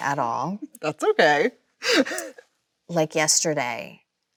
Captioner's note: Chloe laughs